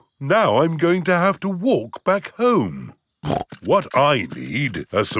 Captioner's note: snorts